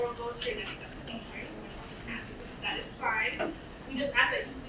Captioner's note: speaking away from mic